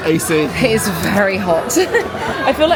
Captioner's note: chuckling